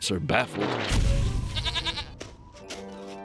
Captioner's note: bleats